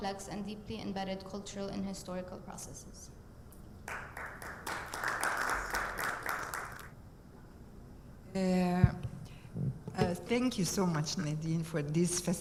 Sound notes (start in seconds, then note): 3.8 audience applauding